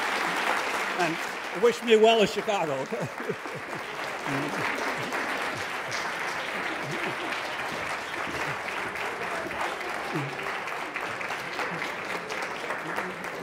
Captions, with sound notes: And wish me well in Chicago, okay? (laughs)